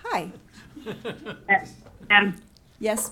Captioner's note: laughing